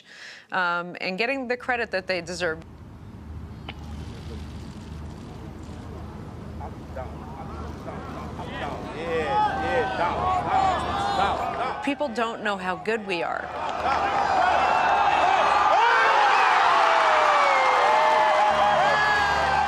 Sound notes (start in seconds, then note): 9.7 crowd chattering; 13.7 crowd cheering